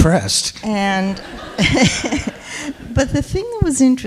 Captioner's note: people laughing